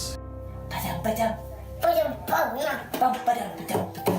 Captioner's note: making drum noise